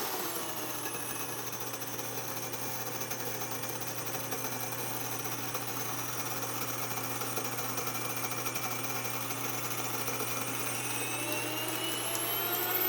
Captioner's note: whirring